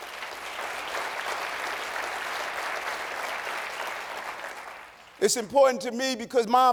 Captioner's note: applause